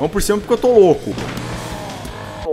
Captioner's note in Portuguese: VRUM DUUM, barulho da serra e do do carro